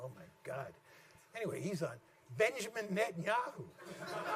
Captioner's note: laughter